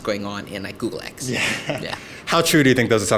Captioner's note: laughs